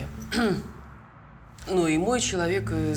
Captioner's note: clears throat